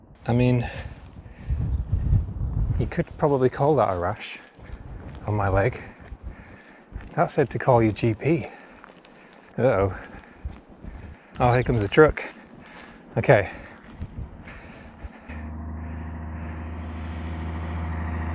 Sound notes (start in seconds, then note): 14.5 engine Noise